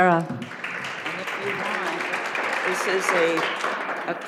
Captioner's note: audience applauding